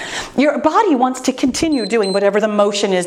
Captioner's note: timer beeps